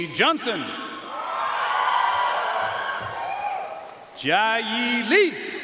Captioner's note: audience cheering and applauding